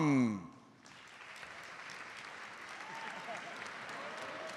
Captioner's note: audience applauds